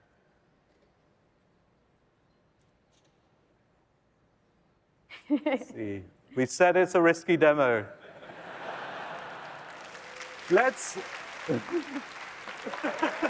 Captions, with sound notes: Let's see. We said it's a risky demo. [LAUGHTER] [APPLAUSE]